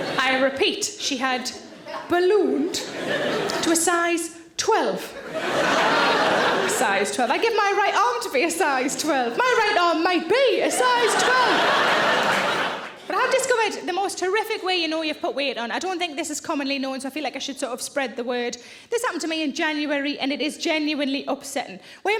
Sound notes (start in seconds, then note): 0.0 audience laughs; 6.6 audience laughs